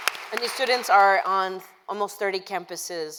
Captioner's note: applause